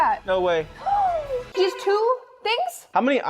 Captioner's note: gasps